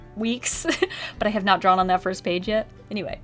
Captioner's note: laughs